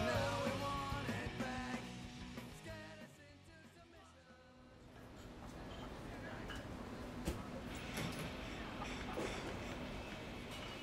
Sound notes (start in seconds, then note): 7.9 glasses clattering